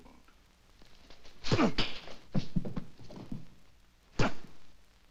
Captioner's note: Mac grunting